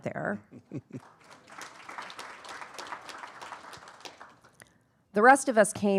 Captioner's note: laughing; attendees applauding